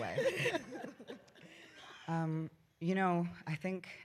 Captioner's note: laughter